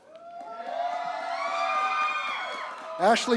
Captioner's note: applause